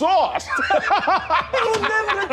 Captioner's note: laughing